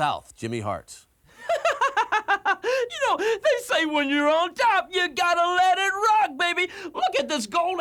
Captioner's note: laugh